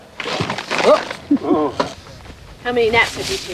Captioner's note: gasps